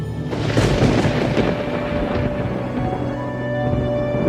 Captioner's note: thunder